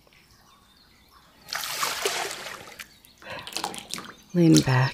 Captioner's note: a gentle splash as you return